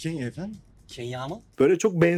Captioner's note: with accented pronunciation